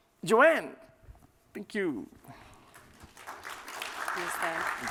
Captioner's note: applause